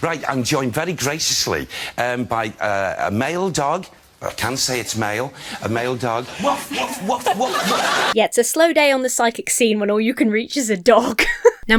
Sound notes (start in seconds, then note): 5.5 audience laughs; 6.5 barks; 11.1 laughs